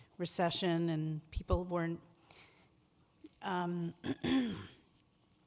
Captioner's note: clears throat